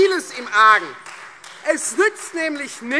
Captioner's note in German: Beifall Freie Demokraten